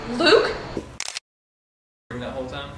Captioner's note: camera shuttering